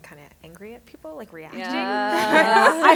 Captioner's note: affirmative responses